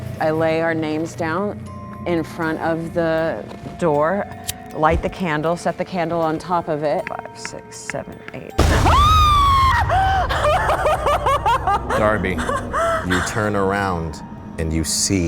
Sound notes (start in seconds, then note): 8.6 loud crashing; 8.6 screaming; 9.8 laughing